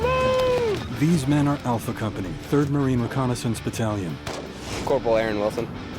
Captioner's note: voiceover